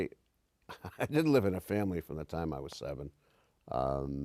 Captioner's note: laughs